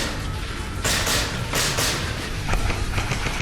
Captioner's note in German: Schüsse